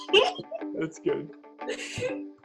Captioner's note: laughs